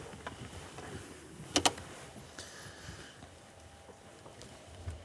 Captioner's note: tape recorder starts